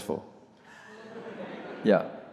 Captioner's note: audience laughs